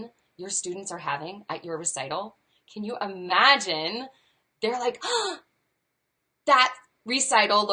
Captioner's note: gasps